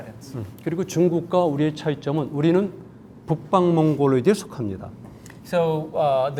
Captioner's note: speaking in Korean